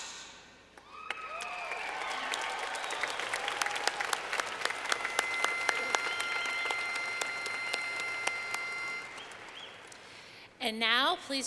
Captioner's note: clapping